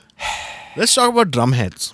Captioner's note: sluuurrrpp